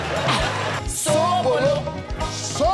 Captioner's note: audience cheering